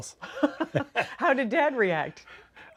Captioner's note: laughs